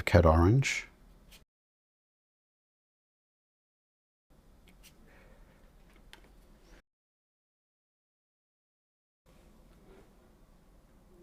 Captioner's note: silence